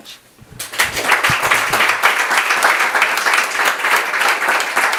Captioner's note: audience applauds